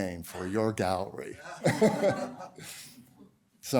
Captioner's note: laughter